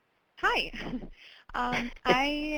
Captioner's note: voiceover